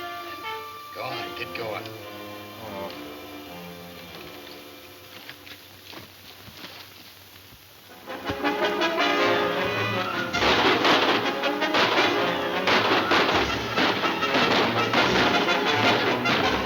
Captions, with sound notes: Go on, get going. - Oh. (thrilling music) (guns firing)